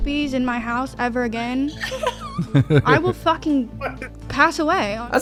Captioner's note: laughter